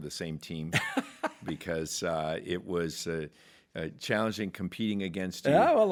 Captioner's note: laughs